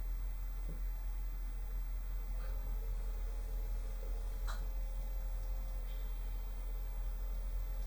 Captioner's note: muffled pump noises